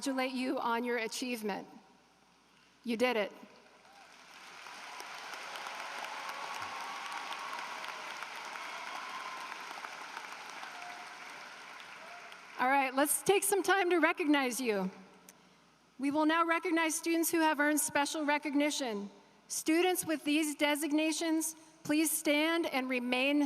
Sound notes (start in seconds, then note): 10.9 applause